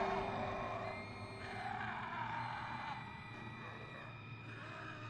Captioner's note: ominous music continues; people screaming